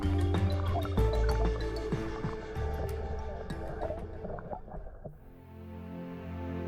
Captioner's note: lively music; water burbling; gentle dramatic music